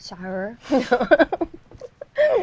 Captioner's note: laughs